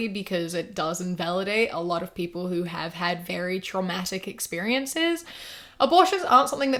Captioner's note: none